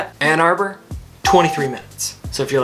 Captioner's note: graphics ding